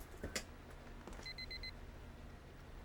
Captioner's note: rapid Beeping